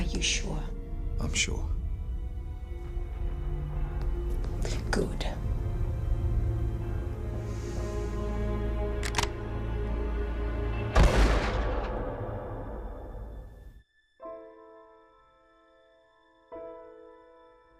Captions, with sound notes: Are you sure? I'm sure. Good. (loud gunfire) (melancholy music)